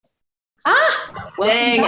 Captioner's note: exclaims